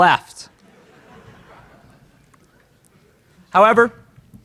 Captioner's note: laughter in crowd